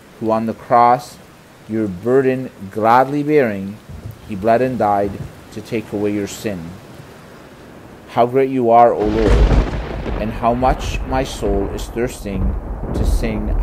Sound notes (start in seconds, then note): 9.0 thunder booming